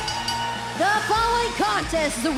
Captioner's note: bell ringing